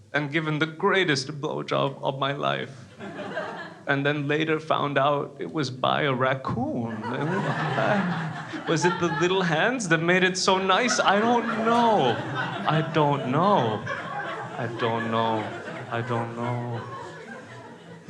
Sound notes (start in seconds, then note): 7.3 crowd laughs